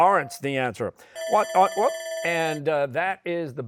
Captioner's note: bell ringing